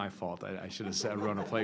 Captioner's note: laughter